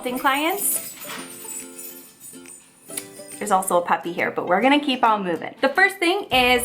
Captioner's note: bells jingling